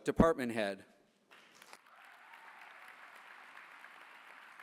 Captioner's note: applause